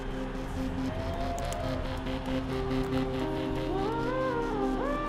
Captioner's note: bones cracking